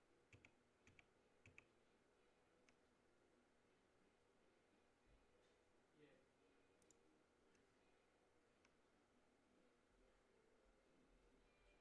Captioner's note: mouse and keyboard clicking